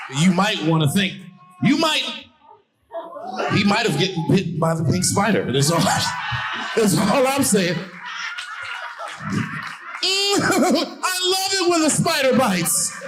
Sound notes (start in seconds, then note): 8.2 audience laughing